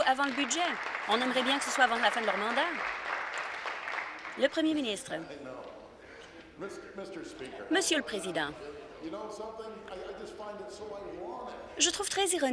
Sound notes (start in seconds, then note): 2.6 some Applause